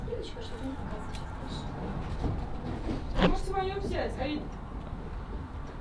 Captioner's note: woman speaking in background